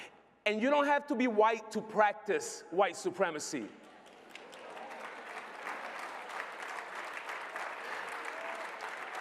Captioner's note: applause